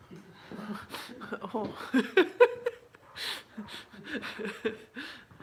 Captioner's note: laughter